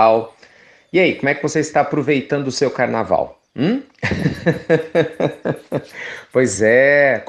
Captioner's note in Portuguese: Risos